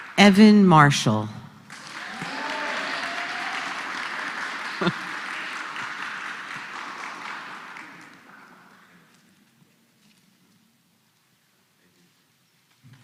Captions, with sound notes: >> Evan Marshall. >> [APPLAUSE]